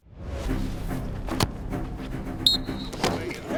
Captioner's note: dramatic Music; ball Kicked; whistle